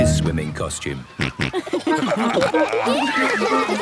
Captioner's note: snorting, giggling